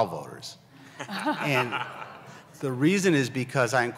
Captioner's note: laughter